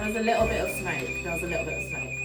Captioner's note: alarm ringing; soothing jazz music